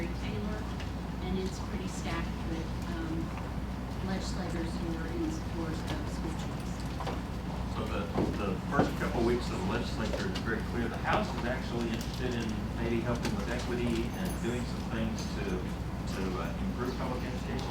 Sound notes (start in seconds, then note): none